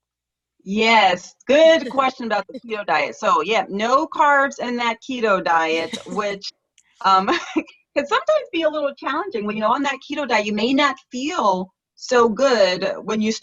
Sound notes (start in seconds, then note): 7.2 laughter